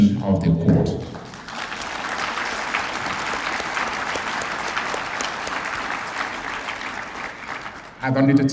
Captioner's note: applause